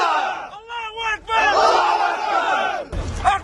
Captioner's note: battle cries